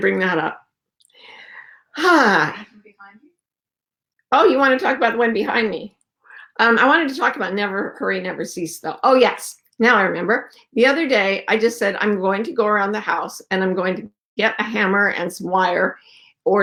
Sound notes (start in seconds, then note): 1.2 deep exhale